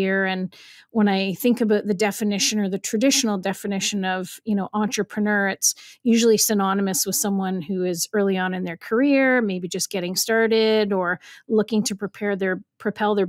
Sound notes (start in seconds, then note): none